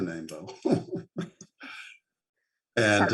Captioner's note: laughs